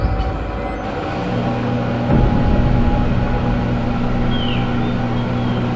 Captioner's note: microwave beeping and whirring